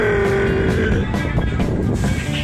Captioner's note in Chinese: 破音